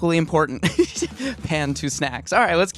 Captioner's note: chuckles